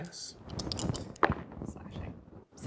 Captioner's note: dice rattle, then roll